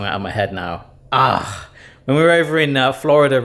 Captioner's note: groans